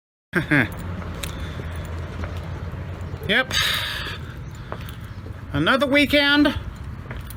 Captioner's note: chuckles